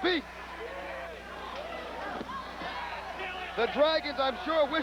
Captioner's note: crowd chatter